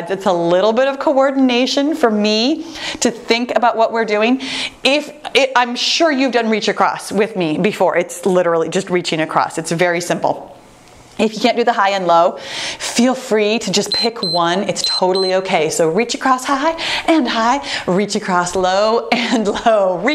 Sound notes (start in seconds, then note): 14.7 timer beeps